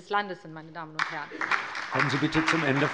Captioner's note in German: Allgemeiner Beifall